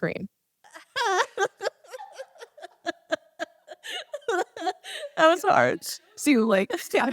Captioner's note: weak scream sound & laughter